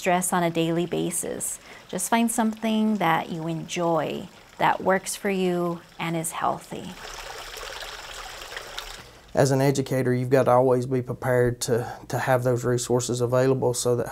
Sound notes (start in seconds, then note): 7.2 river flowing